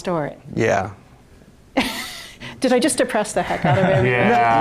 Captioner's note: laughs